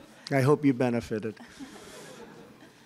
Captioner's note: laughter